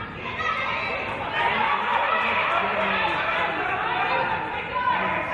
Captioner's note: players and audience yelling